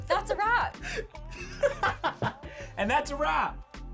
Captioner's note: laughter